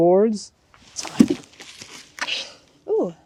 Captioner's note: wood thudding